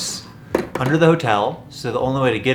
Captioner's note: tapping on bucket